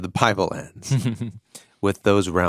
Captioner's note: chuckles